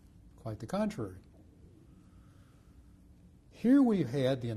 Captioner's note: pauses for 3 seconds